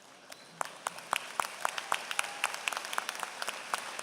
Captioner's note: applause